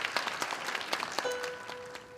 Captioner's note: applause